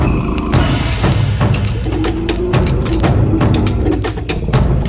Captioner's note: dramatic drum music; dinosaur growling continues; dramatic drum music continues